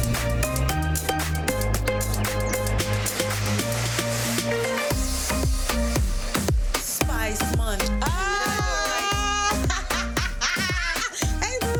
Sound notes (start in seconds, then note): 0.3 upbeat Trinidadian music; 7.7 woman cheering; 10.1 woman laughing